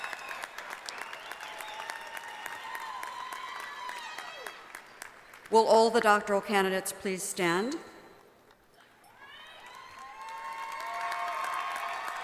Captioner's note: applause